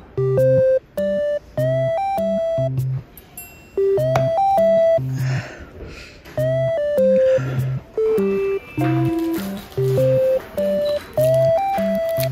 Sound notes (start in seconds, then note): 5.0 breathing heavily